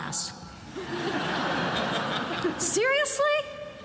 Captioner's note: attendees laughing